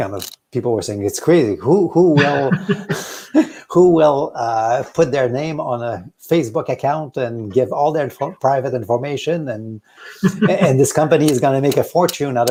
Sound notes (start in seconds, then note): 2.1 both laughing